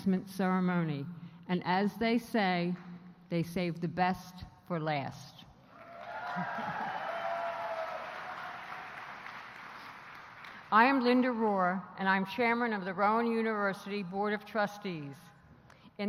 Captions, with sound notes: ceremony. And as they say, they save the best for last. [ APPLAUSE ] I am Linda Rohrer, and I am chairman of the Rowan University Board of Trustees. In that role, it is my